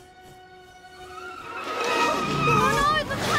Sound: tyres screeching

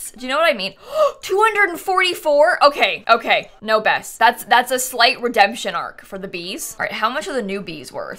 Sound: gasps

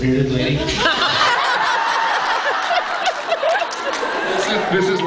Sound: laughs

